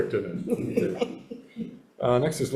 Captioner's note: chuckles